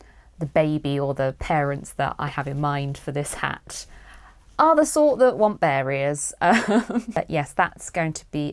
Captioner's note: chuckles